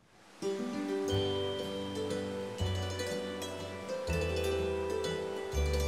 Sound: leaves rustling; calm music

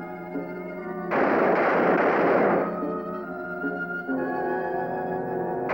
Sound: gunfire

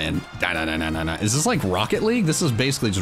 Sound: vocalizing

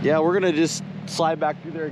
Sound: boat engine running; chuckling

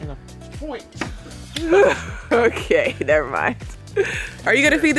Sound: chuckles

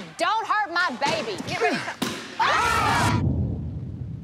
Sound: audience exclaims

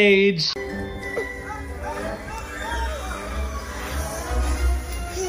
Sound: cartoon plays in the background

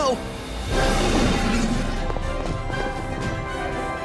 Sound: roaring

